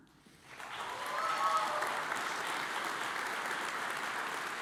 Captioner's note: audience applauds